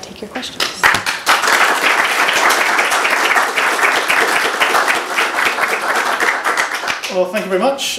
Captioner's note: applause